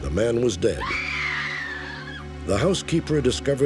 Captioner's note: screams